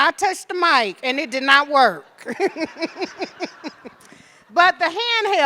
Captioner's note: laughing